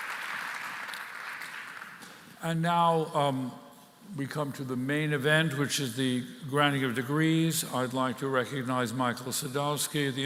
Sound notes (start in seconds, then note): 0.0 applause